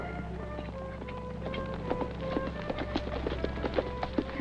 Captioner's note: hooves clop